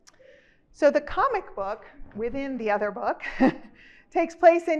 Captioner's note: chuckles